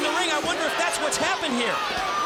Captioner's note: crowd chatter